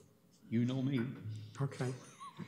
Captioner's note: laughs